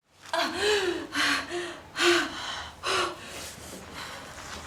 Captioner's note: Stella breathes heavily